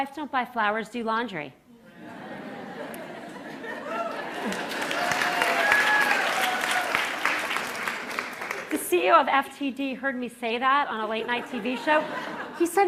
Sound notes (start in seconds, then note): 1.8 laughter; 3.9 applause